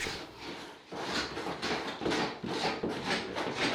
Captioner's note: scraping